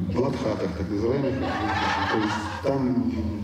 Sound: laughter

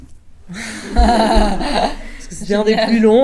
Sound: laughs

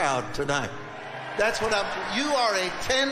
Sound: congregation cheering

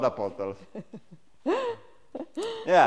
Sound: laughs

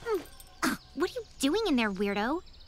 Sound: scoffs

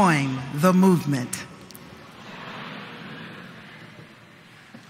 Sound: audience repeats

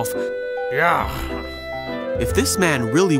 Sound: Simon grunts

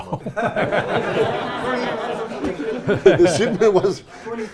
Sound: audience laughing

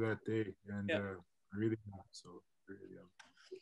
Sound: mutters

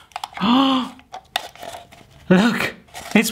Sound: gasping

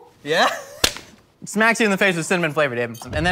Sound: slapping face

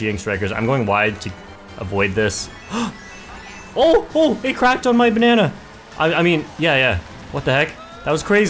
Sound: gasps

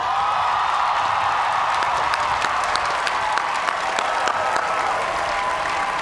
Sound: cheers and applause

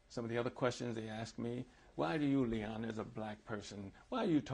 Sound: none

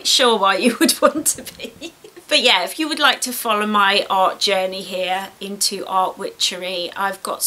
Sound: laughs

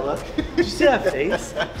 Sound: laughs

